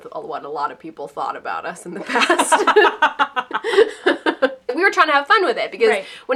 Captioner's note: laughter